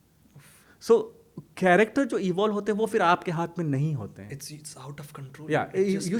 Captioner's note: hindi